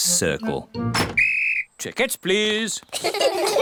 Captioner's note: blows whistle; all laugh